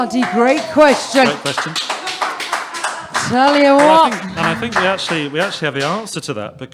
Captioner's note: applause